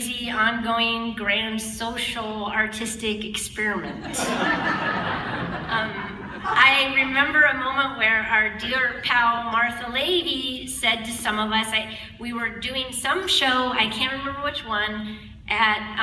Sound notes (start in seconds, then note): 3.9 laughter